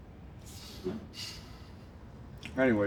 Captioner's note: sigh